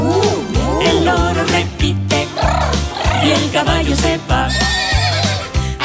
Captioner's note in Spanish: Relincho